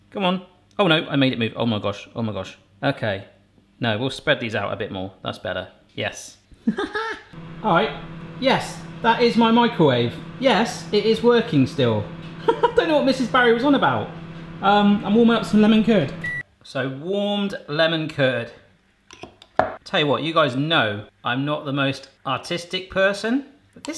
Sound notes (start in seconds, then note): 6.6 laughing; 12.4 laughing; 16.2 beep